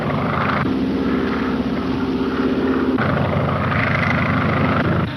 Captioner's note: engine droning